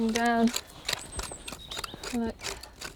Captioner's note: shovel scraping